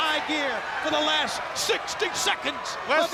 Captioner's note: crowd clamoring